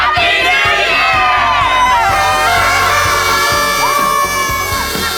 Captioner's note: horns blowing